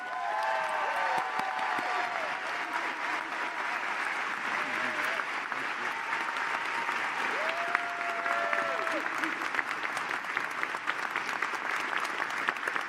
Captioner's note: cheers and applause